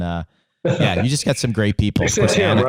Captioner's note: laughing